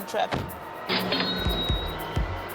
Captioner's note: ding